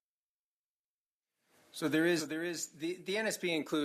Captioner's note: speaking French